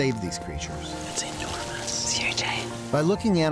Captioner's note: whispering